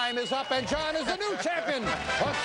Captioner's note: applause